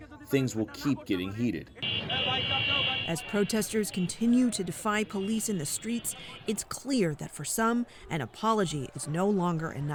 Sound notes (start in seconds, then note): 3.6 voice-over